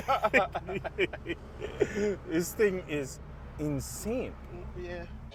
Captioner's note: laughing